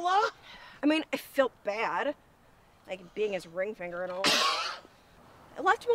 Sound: Barry coughs

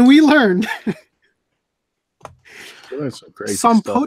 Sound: laughs

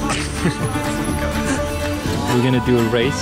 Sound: Spanish

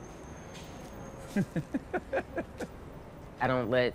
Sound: laughing

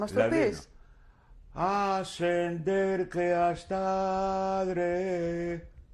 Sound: chants in Spanish

